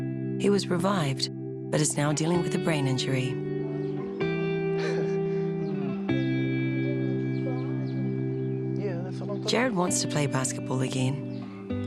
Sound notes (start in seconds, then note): 4.7 chuckles; 6.8 wheezes